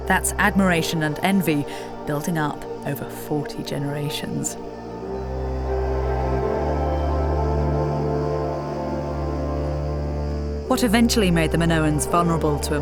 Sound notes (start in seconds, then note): 5.4 insects buzzing; 5.4 somber music continues